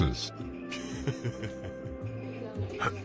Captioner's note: chuckling; clearing throat